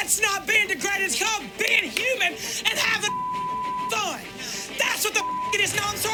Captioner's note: beep